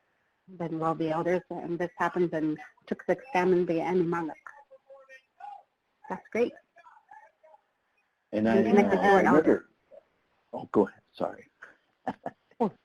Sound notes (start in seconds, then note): 8.4 overlapping muttering